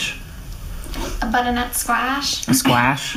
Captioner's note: in an accent